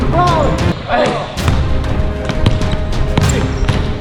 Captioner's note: upbeat orchestral music; ball bounces